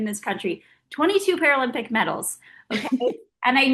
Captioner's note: Oksana laughing